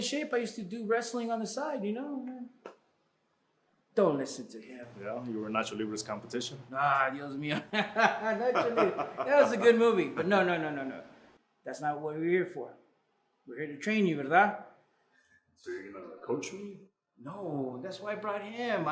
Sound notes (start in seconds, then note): 6.7 Spanish; 7.3 they laugh; 14.3 Spanish